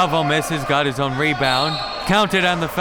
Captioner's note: whistle blowing